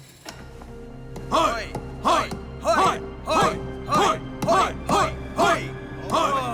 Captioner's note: all cheering